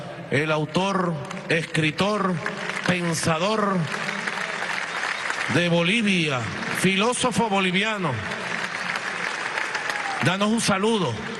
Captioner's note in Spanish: aplausos